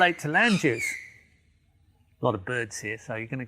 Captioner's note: birds squawking